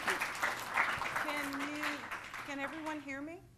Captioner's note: applause